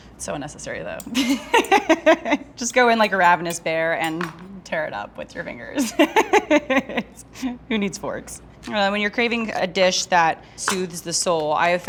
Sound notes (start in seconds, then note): 2.0 laughs; 7.0 laughs